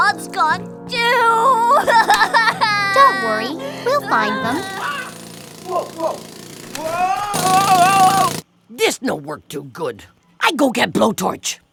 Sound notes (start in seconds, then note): 1.0 sobbing; 3.6 sound of jackhammer